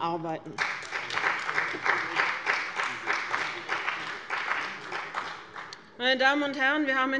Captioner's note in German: Beifall bei dem BÜNDNIS 90/DIE GRÜNEN und der CDU